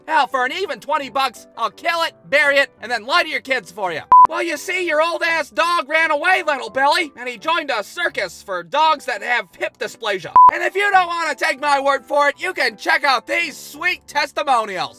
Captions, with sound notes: Hell, for an even 20 bucks I'll kill it, bury it and then lie to your kids for ya. (BEEP!) Well, you see, your old-ass dog ran away, little Billy. And he joined a circus for dogs that have hip dysplasia. (BEEP!) And if you don't want to take my word for it, you can check out these sweet testimonials.